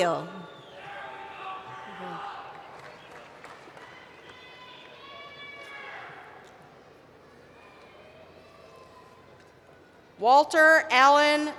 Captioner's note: cheering